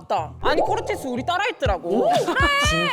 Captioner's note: sound effect of a shocking statement